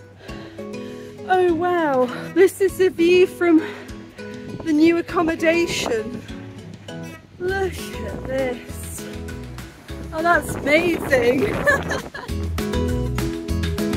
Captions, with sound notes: Oh wow! This is the view from the new accommodation. Look at this! Oh, that's amazing [laughing]. [upbeat music]